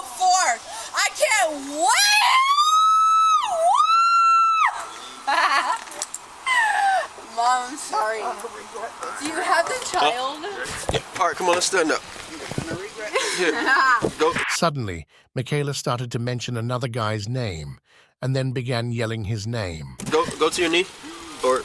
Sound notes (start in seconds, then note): 4.6 screaming; 6.5 laughing; 13.0 lauhing